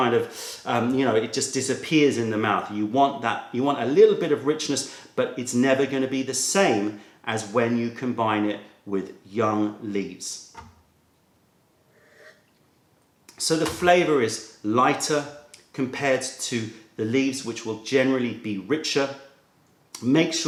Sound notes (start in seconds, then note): 11.9 sips tea